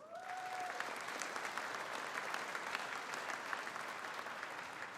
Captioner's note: audience applauding